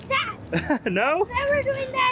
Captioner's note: laughs